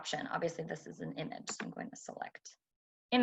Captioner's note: typing